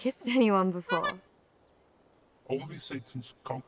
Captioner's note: horn honking